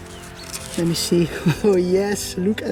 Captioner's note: chuckles